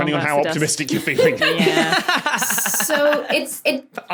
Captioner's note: laugh